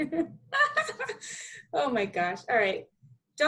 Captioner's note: laughing